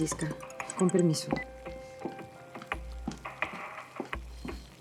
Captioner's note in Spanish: Suena el celular